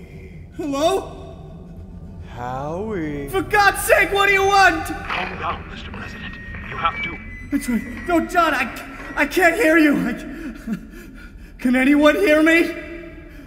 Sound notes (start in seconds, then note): 8.4 static